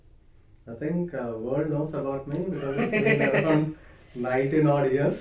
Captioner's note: laughs